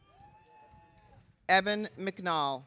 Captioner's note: audience cheering